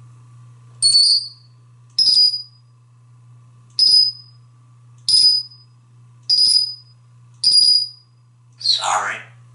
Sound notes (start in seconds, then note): 0.8 high pitched electronic tweets